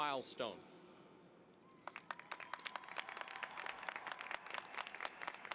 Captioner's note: applause